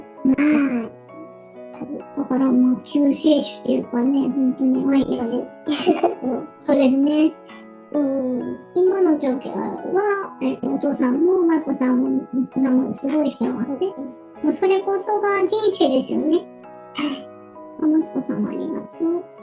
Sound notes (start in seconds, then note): 5.6 laughs